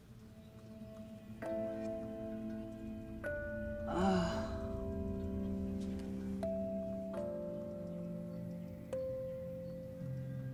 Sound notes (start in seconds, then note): 0.3 serene music playing; 3.9 Clive grunts